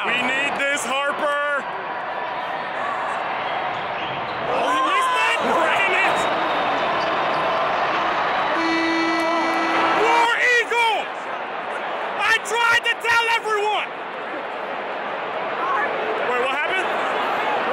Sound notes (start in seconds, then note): 6.2 crowd noise; 8.4 horn sounds